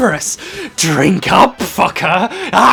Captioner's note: cackling; moar cackling